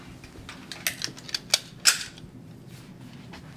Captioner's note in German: Klicken